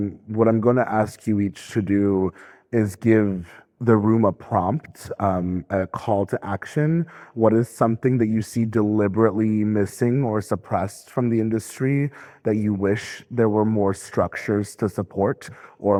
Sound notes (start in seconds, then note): none